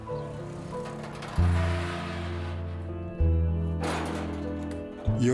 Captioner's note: door creaking open